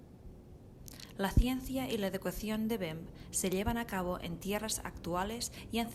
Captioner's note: speaks spanish